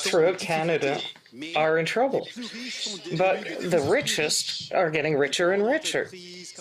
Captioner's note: speaking French